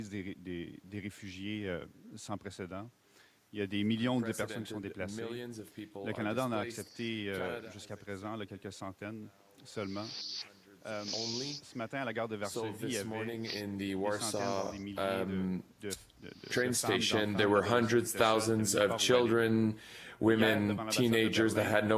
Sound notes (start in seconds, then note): 2.5 speaking Foreign Language